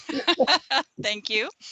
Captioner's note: laughing